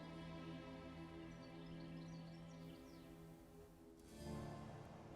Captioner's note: birds singing; soft music